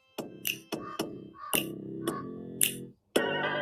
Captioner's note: synthesized beat on hand-held instrument; raven caws